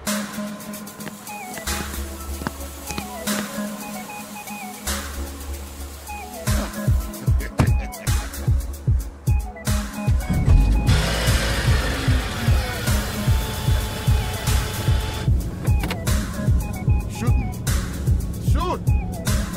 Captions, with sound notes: (suspenseful music) (engine igniting) (lock clicking) - Shoot me. Shoot.